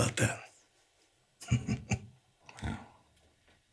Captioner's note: Anderson chuckling